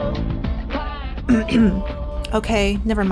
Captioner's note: throat clearing